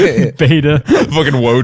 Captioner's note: laughter